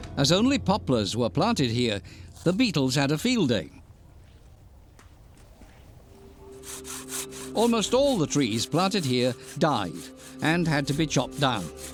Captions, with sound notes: As only poplars were planted here, the beetles had a field day. [scraping] Almost all the trees planted here died and had to be chopped down.